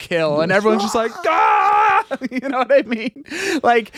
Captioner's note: screaming